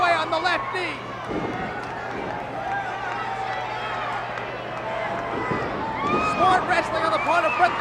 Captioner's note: applause